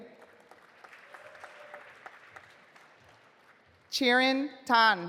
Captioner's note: audience applauding